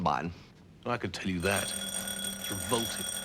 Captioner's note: doorbell